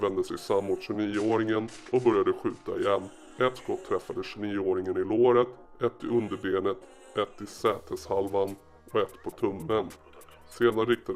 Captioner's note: zam